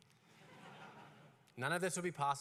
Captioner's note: laughter